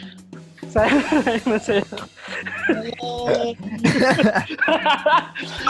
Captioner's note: laughing